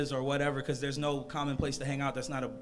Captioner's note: none